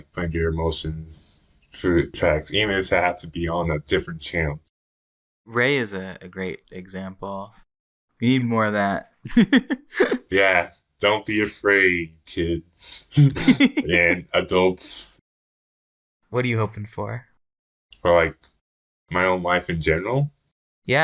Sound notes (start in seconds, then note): 9.3 laughs; 13.1 both laugh